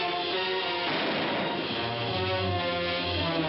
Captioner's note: gun firing